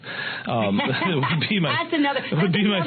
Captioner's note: laughter